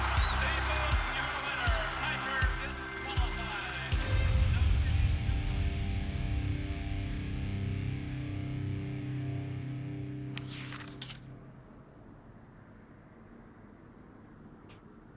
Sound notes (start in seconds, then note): 3.8 rock music; 10.3 paper rustling